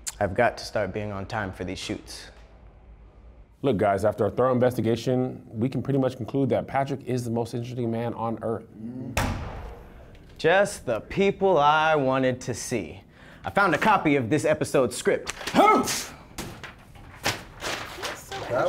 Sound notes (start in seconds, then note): 9.2 slaps door open loudly; 15.2 hmpphs and papers scatter